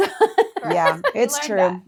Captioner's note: laughing